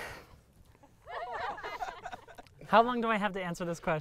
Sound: crowd laughing

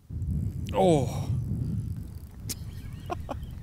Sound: laughs

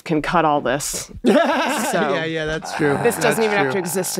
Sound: laughs

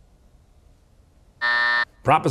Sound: buzzer

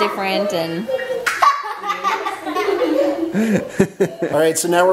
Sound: everyone laughing

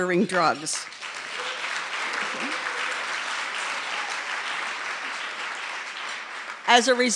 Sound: applause

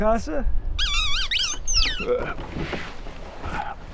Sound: Rat King squeaking

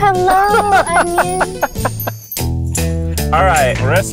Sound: laughing

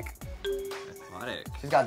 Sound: ding

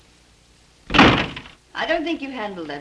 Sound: door slams

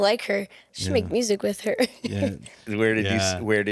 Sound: laughs

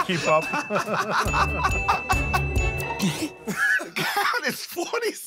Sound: laughter

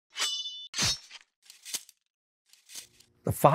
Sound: sword slashing

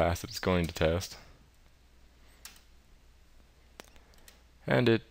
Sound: keyboard Sounds

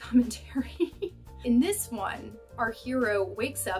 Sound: laughter

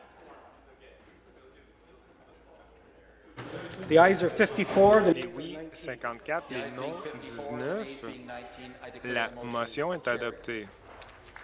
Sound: speaking off mic

